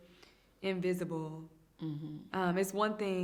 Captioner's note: hums in agreement